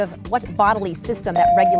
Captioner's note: bell dings